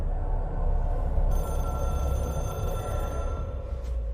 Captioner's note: phone rings